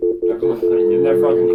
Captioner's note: dial tone